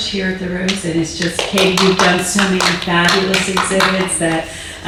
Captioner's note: audience applauding